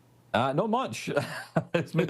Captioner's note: laughs